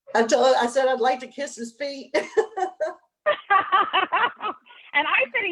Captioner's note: laughs